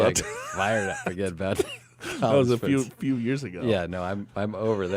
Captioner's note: laughs